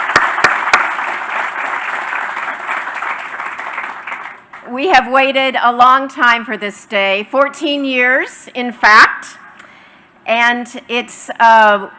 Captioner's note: applause